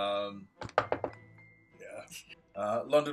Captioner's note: knocking